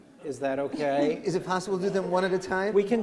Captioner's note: laughter